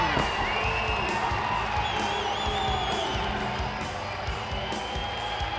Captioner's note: applause